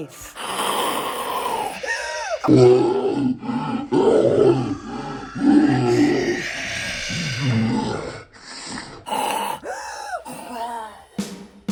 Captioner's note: snarls; snare drum